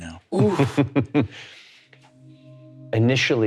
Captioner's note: chuckling